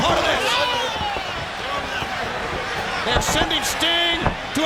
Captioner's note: fans cheering